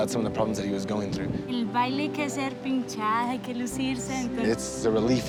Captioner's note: speaking Spanish